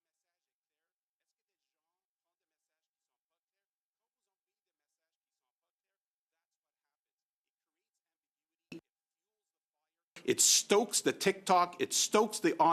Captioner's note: speaking French